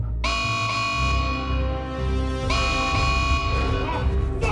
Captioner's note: alarm blaring